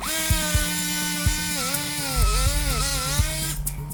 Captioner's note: instrument drilling